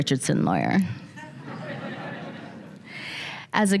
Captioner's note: laughter